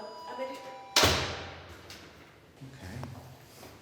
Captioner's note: door slams